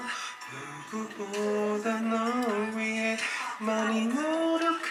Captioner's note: breath